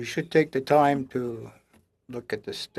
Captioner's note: speaking French